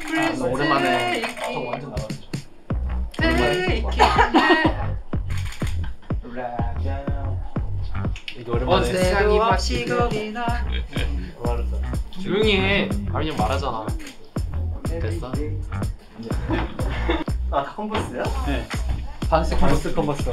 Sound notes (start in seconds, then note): 14.4 sulky